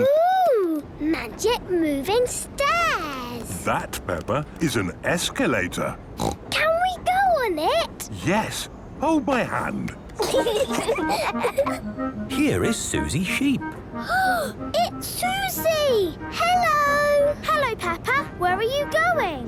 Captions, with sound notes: - Ooh! Magic moving stairs! That, Peppa, is an escalator. Snort! - Can we go on it? - Yes. Hold my hand. - (children giggling) - Here is Suzy Sheep. - Ah! It's Suzy! Hello!! - Hello, Peppa! Where are you going?